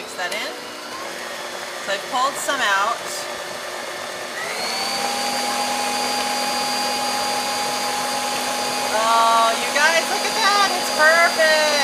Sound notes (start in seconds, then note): 2.1 beater whirs